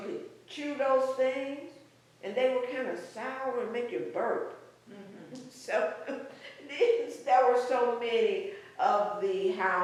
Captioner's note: laughs